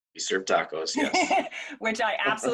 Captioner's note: laughing